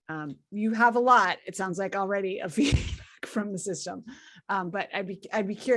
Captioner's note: laugh